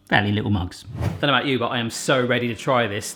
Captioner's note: whooshing